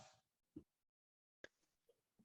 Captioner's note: silence